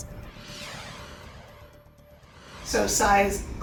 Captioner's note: graphics whoosh